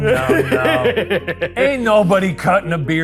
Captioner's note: laughing